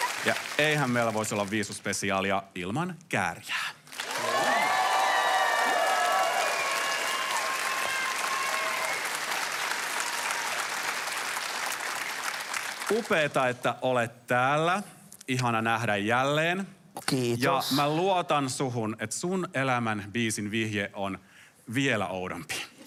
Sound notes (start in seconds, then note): 4.6 applause